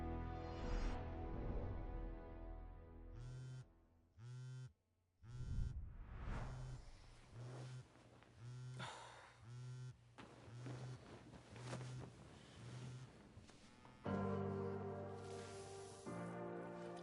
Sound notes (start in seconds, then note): 3.1 phone vibrating; 8.7 sighing; 14.0 inspirational music